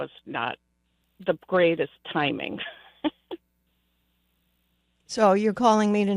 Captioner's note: laughs